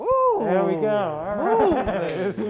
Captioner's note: laughing